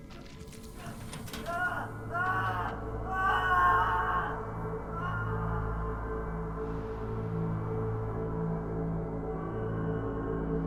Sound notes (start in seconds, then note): 2.1 boy yelling; 6.7 deep ominous music